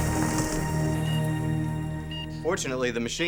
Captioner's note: heart monitor beeping